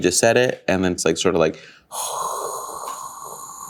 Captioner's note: exhales